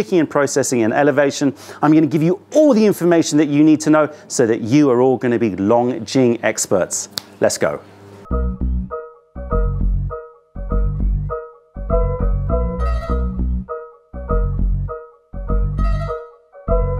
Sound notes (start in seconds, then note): 10.2 finger snap